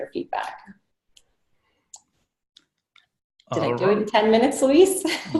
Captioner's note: laughing